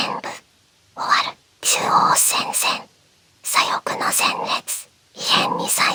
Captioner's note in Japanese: 鼻息